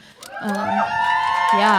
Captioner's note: audience cheering